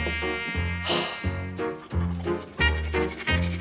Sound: exhales

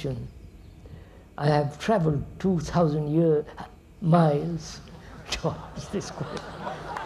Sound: laughter

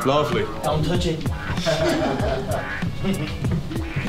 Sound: chuckling

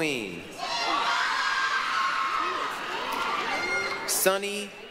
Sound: applause, cheering

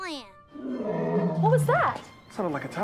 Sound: Toby roars

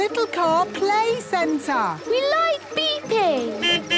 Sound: horns beeping

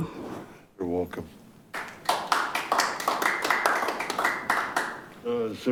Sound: audience applauding

